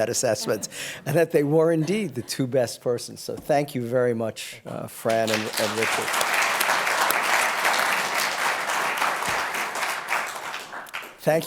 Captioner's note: applause